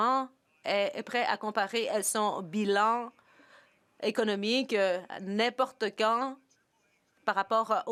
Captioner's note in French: voix de l'interprète